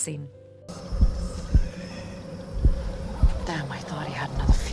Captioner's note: whispers